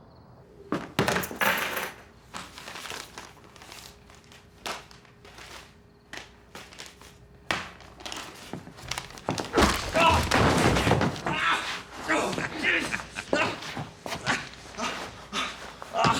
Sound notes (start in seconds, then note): 0.7 objects thudding; 9.7 Danny thuds; 9.7 bat thumps; 12.0 Danny groans; 12.2 Bob chuckles